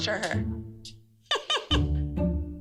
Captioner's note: laughs